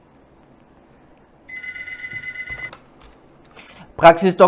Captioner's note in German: Telefon Ringen